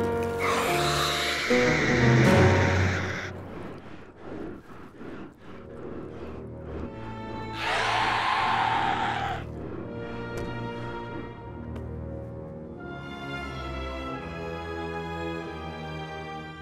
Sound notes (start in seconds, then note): 0.4 high-pitched screaming; 12.6 dramatic instrumental music